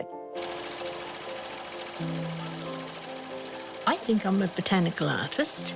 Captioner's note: machine clatters